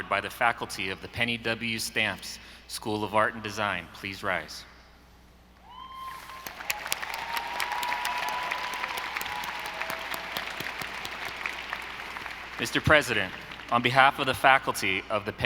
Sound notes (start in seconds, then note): 6.0 audience applauding